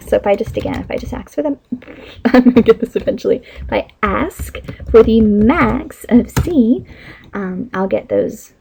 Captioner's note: tongue twisted, laughing